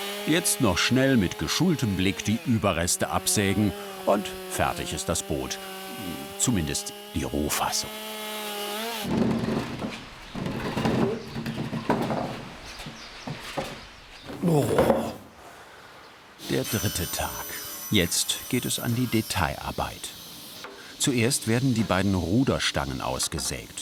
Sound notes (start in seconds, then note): 14.3 groans